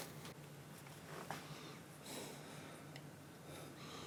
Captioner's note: noisy breathing